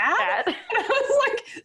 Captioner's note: laughing